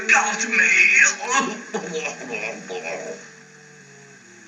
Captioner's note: groans